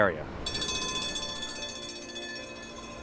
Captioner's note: trolley bell rings